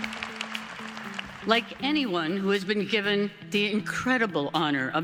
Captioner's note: applause